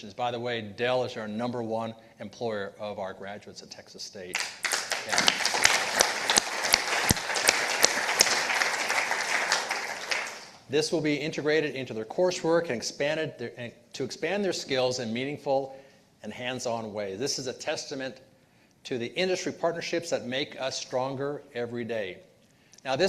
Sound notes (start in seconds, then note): 4.3 participants applauding